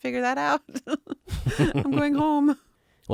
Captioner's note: laughing